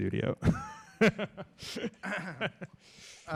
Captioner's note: laughs